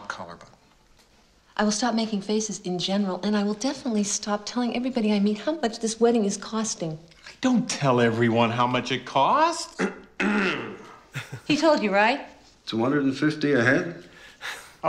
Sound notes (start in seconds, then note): 9.8 clears throat